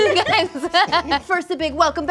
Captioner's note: laughter